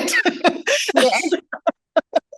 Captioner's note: chuckles